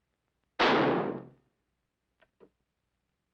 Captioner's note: gunshot